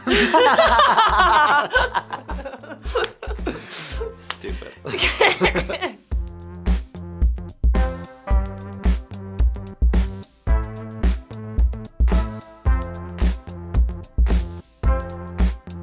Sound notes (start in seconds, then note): 0.0 sarcastic laughing turns into real laughing; 5.0 laughs; 8.6 chill techno music playing